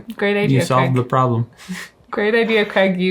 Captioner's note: chuckles